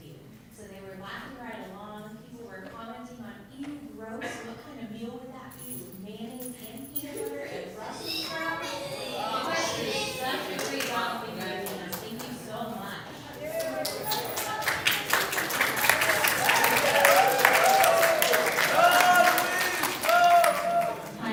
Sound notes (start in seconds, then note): 9.2 gagging sounds; 13.4 applause